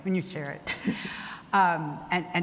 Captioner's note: laughs